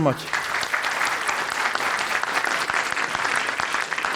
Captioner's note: applause